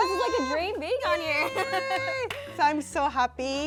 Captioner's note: cheers